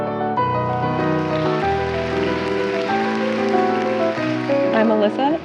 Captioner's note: audience applauding